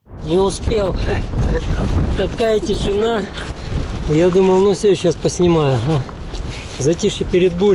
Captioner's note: laughs